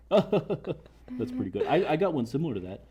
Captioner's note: laughs